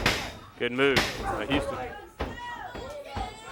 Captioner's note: crowd cheers